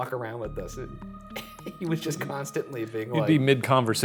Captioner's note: chuckles